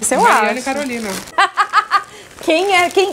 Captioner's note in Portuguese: risos